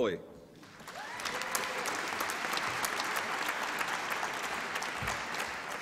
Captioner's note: applause and cheering